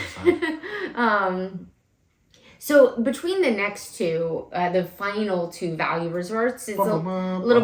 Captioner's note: laugh